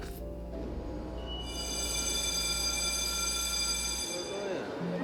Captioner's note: bell ringing